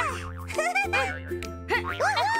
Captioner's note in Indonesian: terkekeh